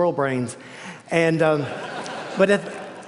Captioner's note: laughter